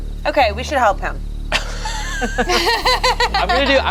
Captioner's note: everyone laughs